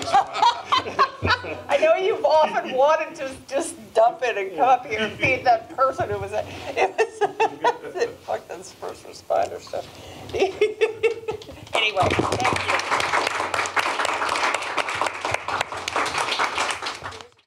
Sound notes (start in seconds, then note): 0.0 laughter; 6.5 laugh; 11.7 applause